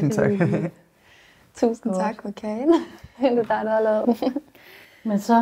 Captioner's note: chuckles; giggles